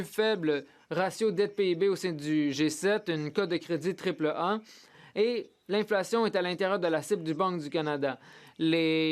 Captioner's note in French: voix de l'interprète